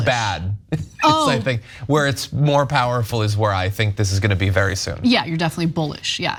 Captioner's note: laugh